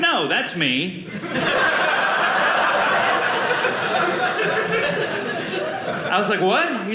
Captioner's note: audience laughing